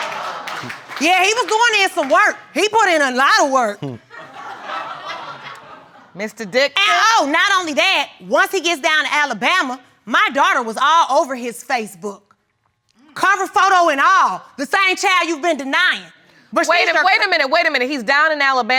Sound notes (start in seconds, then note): 3.8 audience laughs